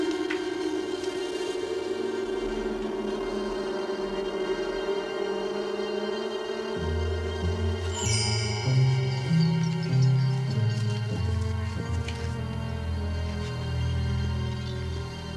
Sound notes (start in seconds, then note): 7.8 chandelier tinkling